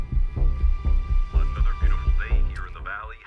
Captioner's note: radio Announcer